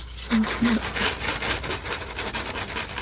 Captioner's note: scratching